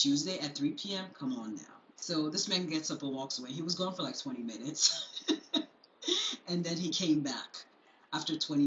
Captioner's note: chuckles